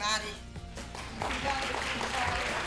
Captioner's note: applause